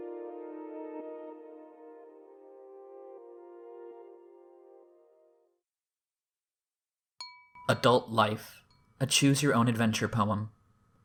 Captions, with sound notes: [music stops] [chime sound] "adult life: a choose your own adventure poem"